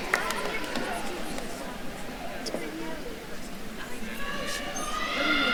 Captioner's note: attendees cheering and applauding; attendees chattering; attendees cheering